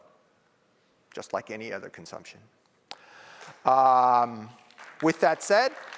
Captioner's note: applause